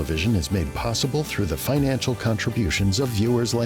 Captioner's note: voiceover